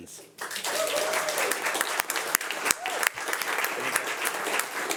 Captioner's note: audience applauding